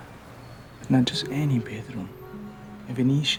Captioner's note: in italian accent